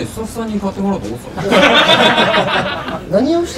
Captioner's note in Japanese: スタッフ 笑い